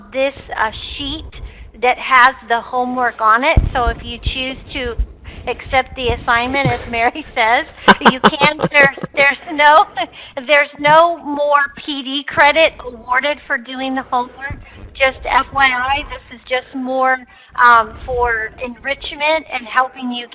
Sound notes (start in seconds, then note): 7.7 laughing